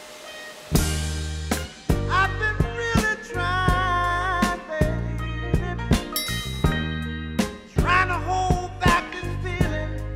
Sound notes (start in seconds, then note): 6.2 Klingeln